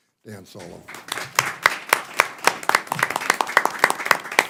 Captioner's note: applause